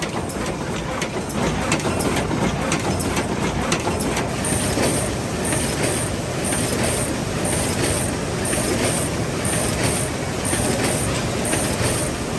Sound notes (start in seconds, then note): 0.3 machine whirring and clunking; 6.4 machine buzzing